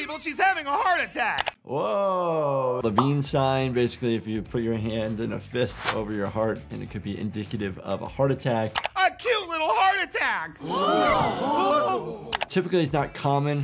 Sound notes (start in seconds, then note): 10.6 crowd gasps